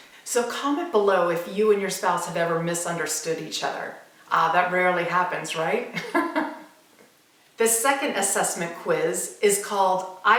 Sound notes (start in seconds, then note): 6.0 laughs